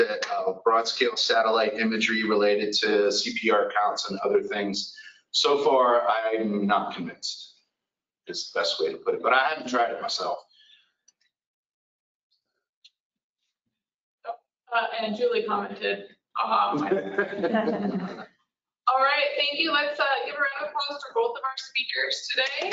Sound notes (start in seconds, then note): 16.7 laughter; 22.4 applause